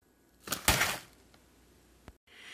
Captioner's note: smack